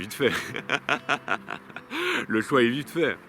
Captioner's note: laughs